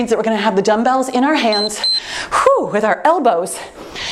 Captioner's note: timer beeps